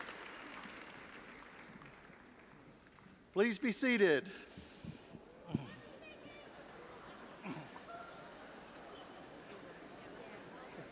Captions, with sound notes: - Please be seated. (audience chattering)